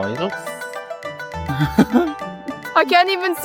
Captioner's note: laughing